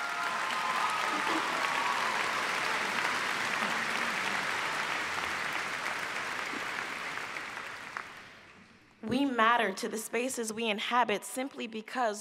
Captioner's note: applause